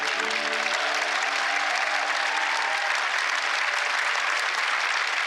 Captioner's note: applause